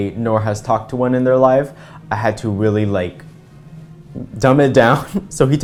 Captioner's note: laugh